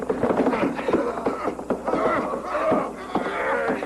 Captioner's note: grunting